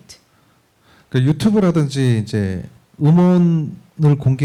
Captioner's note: speaking korean